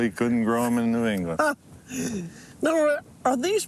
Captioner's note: laughs